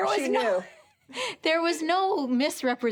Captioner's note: chuckles